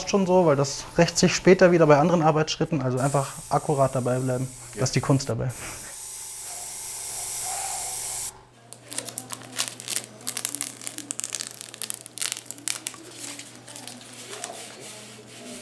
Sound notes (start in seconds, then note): 6.7 quiet roaring; 9.0 crackling, distant babble of voices